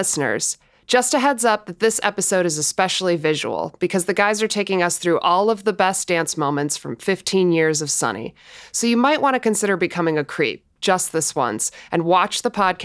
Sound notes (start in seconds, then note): none